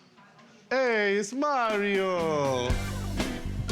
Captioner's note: italian accent